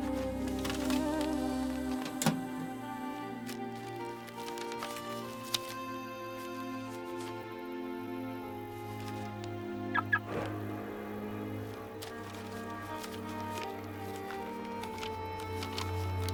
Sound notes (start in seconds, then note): 5.1 reflective music; 9.9 car beeps; 11.5 reflective music